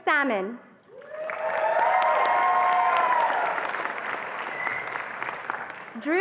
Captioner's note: attendees applauding and cheering